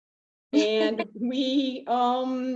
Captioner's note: laughing